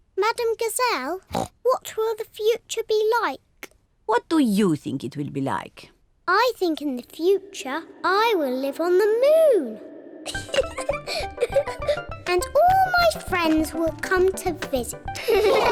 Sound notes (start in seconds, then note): 10.2 laughs